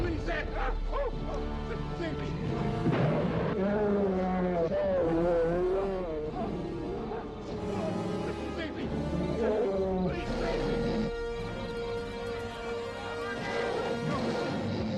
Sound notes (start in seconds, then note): 0.3 shrieking; 3.0 bear roars; 11.6 tense music rises